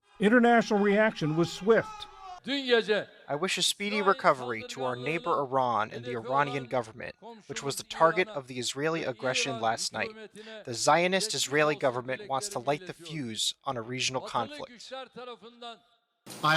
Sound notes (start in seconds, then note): 0.7 voice-over; 4.0 through translator